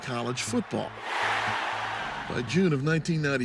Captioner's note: cheering